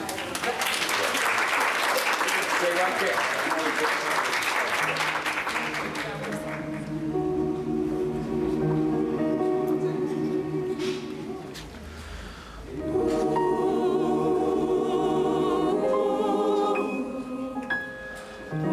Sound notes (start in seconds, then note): 0.0 applause; 5.2 choir humming; 5.4 piano playing chord; 12.6 choir singing